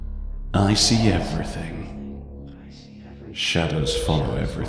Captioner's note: echoing